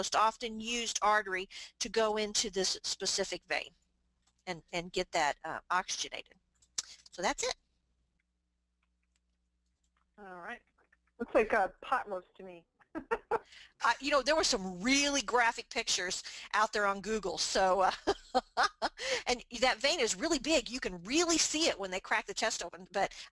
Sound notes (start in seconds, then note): 12.9 laughs